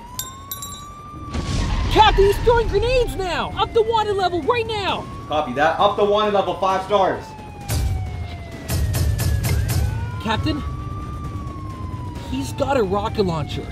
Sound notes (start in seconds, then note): 1.2 explosion; 8.6 shots fired